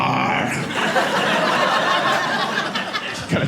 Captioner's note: audience laughing